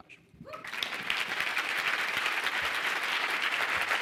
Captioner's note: applause